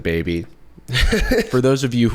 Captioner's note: chuckles